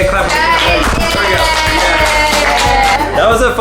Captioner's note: applauding